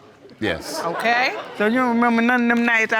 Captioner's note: audience laugh